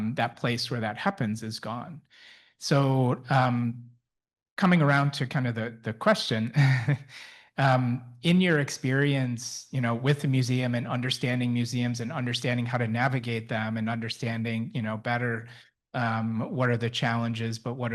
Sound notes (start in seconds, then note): 6.5 chuckles